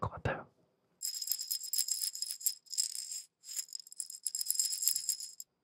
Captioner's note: shaking the pebbles inside the glass